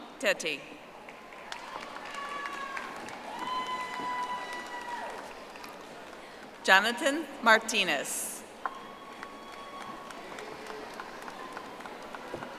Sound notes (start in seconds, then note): 4.8 audience applauding; 12.3 audience applauding